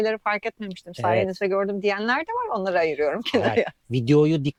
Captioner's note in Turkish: kahkaha